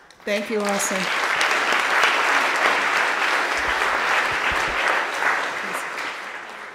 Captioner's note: applauding